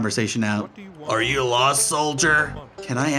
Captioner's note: in soldier's voice